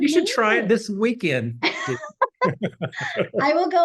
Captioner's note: laughter